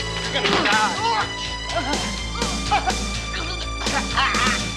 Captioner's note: Kym grunting